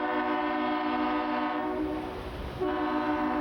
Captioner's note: horn